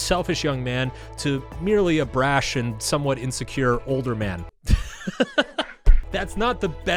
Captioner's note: laughs